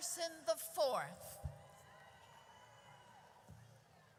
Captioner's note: audience cheers